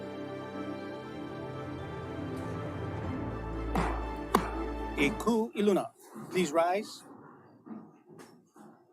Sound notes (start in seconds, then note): 3.7 gavel bangs twice